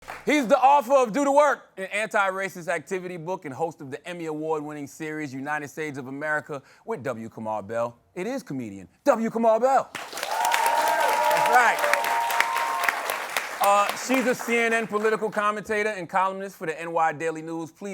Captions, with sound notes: He's the author of "Do The Work," an anti-racist activity book and host of the Emmy-award winning series "United States of America with W. Kamau Bell," it is comedian W. Kamau Bell. - [cheers and applause] - All right. [applause] She's a CNN political commentator and columnist for the NY "Daily News."